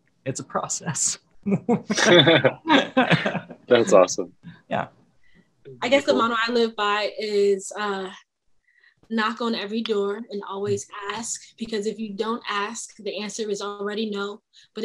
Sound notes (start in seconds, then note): 1.5 all laugh